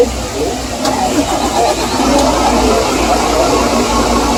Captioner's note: engine starting up again